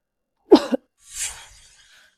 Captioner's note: cough